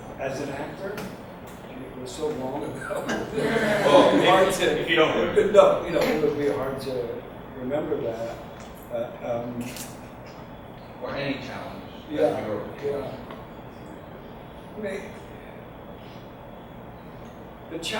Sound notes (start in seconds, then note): 9.1 audience laughs